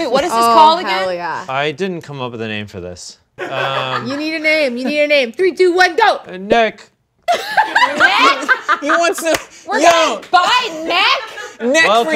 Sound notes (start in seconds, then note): 7.3 laughs